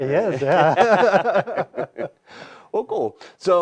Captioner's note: laughter